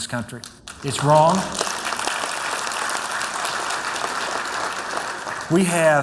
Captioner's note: applause